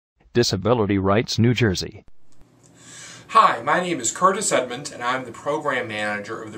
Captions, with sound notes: (Computer Voice) Disability Rights New Jersey Hi. My name is Curtis Edmonds, and I am the Program Manager of the